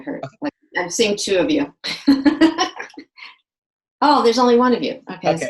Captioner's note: laughs